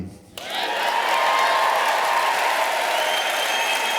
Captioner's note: cheers